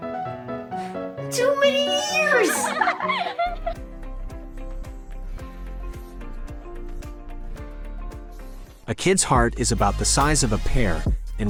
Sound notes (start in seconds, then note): 1.7 children laughing; 3.9 upbeat music